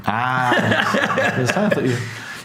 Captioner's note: laughs